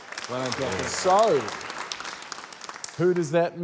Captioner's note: applause